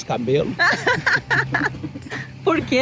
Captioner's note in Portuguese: risadas